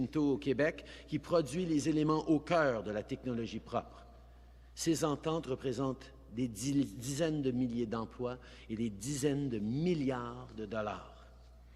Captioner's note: speaking in french